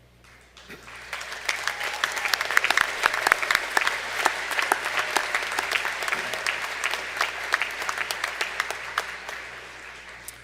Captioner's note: applause